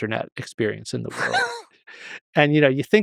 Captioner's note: Lex chuckles